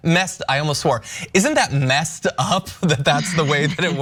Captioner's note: laugh